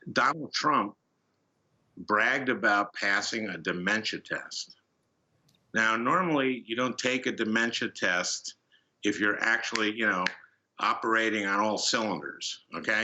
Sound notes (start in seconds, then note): 9.7 snaps fingers